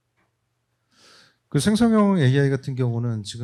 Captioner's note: speaking korean